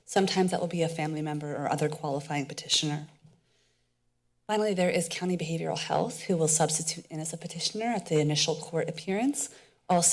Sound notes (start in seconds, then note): 3.0 pause